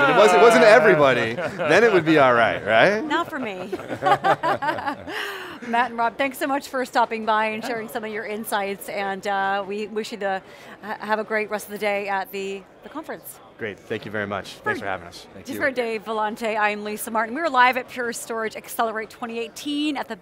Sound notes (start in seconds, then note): 3.6 both laughing